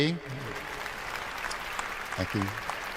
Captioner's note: applause